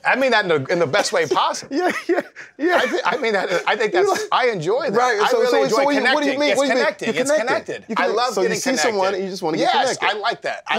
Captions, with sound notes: I mean that in the best way possible. Yeah, yeah, yeah. [LAUGHS] I enjoy that. I really enjoy connecting. So what do you mean? It's connecting. It's connected. You're connected. I love getting connected. So you see someone, and you just want to get connected? Yes, I like that.